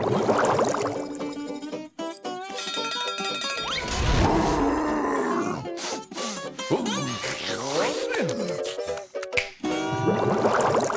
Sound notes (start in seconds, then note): 4.2 growling